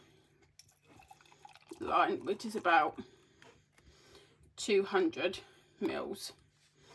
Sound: sound of pouring

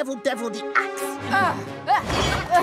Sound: grunting

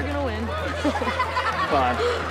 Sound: laughing

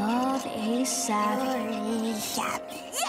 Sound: babbling

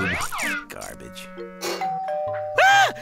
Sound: doorbell rings

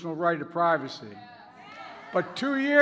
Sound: participants agreeing and clapping

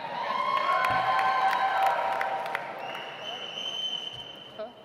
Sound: audience applauds

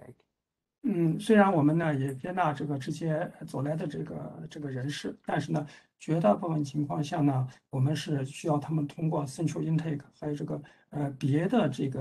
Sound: speaks in Mandarin

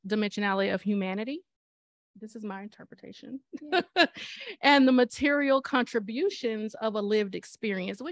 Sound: laughter

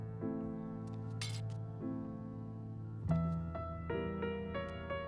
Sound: glass shatters

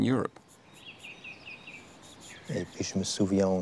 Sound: birds chirping

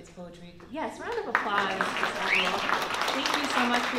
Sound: applause

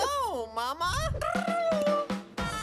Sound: trilling; playful music

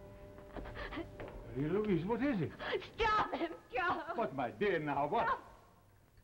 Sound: Marie Louise sobbing; Charles' voice; Marie Louise sobbing

